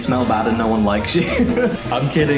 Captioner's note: laughs